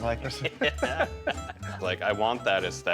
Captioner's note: both laugh